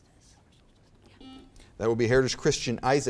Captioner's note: buzzer beeps